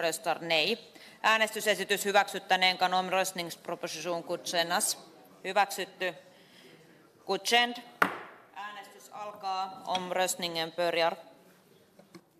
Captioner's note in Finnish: nuijan kopautus